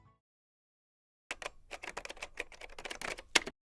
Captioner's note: keyboard clacking